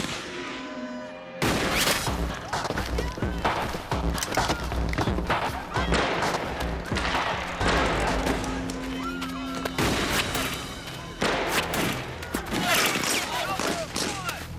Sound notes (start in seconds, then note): 6.0 gunfire; 9.6 bullets whizzing past